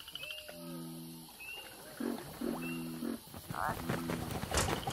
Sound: crickets chirping; frogs croaking

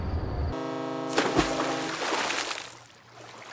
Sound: ship horn

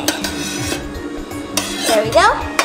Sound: spatula scraping

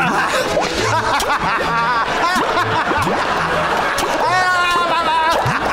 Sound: laughing

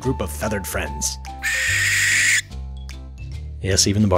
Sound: shrill, slow squawk

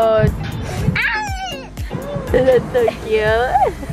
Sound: cat meowing

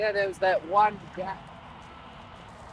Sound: cyclists talking

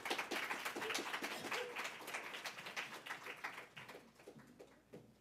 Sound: applause

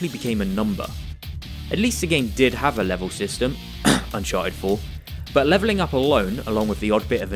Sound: cough

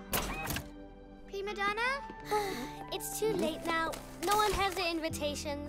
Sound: sighs

